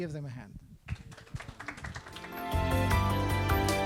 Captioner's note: clapping